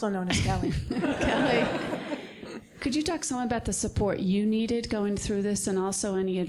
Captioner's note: laugh